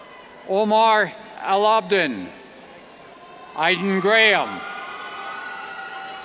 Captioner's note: cheers